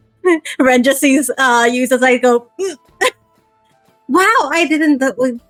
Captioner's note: gasps